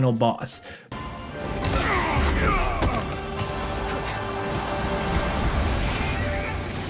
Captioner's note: dramatic orchestral music; characters grunting